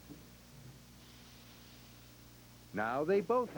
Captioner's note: steam hisses